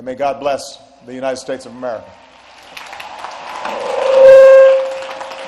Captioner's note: applause